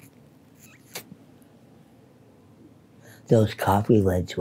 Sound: sucks cigarette loudly

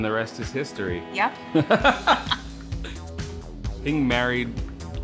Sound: laughter

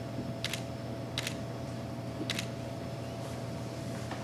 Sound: camera shutter clicking

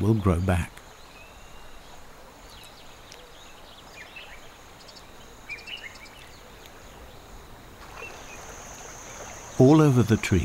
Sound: nature sounds

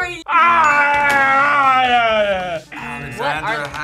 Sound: yells

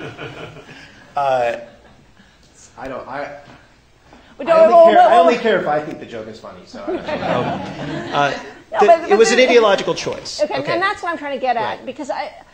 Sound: laughter

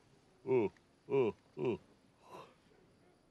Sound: yawns; groans

